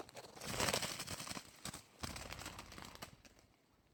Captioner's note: wings flapping